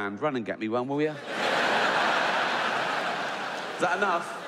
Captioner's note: audience laughs